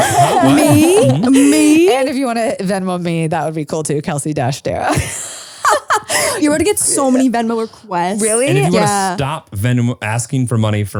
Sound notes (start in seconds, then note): 4.9 laugh